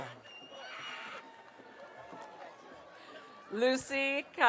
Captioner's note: audience cheering